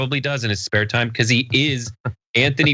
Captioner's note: laugh